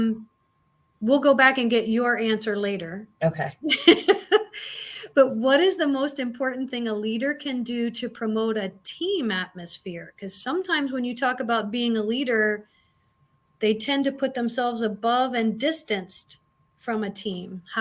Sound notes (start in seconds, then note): 3.6 laughter